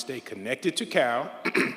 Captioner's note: throat clears